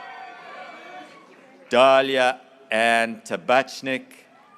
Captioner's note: graduates cheering